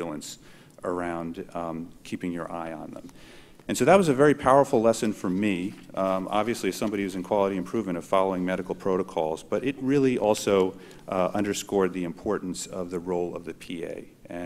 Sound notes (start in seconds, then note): none